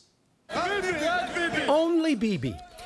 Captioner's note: speaking in hebrew